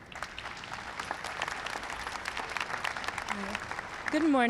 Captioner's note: applause